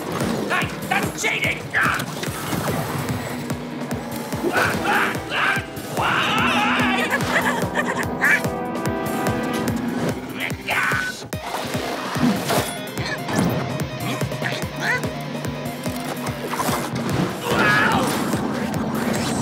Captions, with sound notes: Hey, that's cheating. (SHOUTS) (ROCKET EXCLAIMING) (CHUCKLING) Huh? (EXCLAIMS) Mmm? (ROCKET SHOUTS)